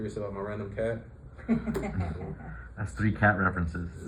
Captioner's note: laughter